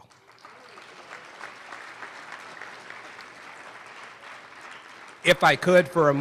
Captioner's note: applause